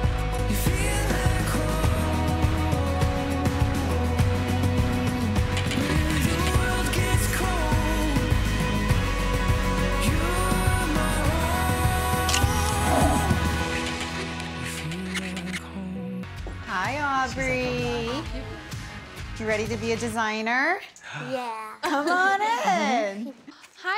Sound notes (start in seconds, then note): 13.6 camera shutter clicking